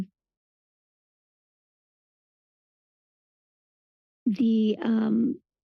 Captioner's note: pause